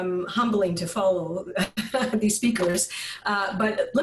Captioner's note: chuckles